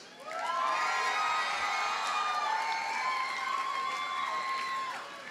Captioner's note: audience cheers and applauds